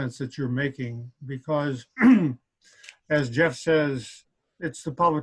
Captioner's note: clears throat